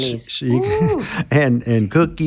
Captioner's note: panelist laughing